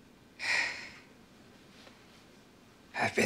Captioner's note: Fergus sighs